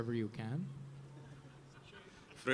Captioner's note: audience laughing